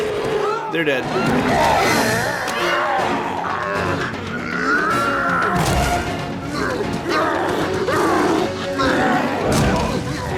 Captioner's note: roars; roaring and grunting